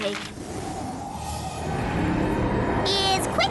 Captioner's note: whistling wind